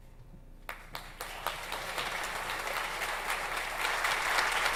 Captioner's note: audience applauds